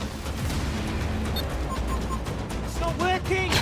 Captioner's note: console beeps